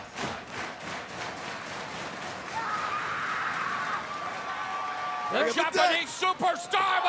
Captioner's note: crowd cheering